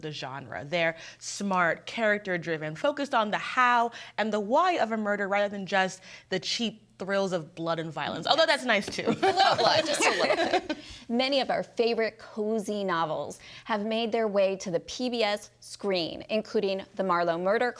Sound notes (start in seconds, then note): 9.3 everyone laughing